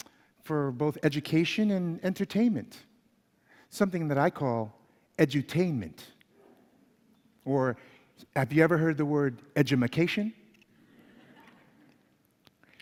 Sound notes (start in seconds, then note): 10.8 laughter